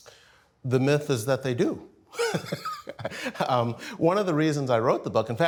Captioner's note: chuckling